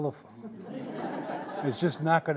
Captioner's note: audience laughing